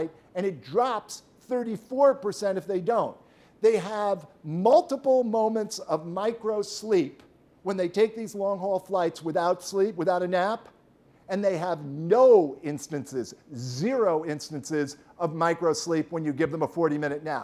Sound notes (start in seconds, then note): none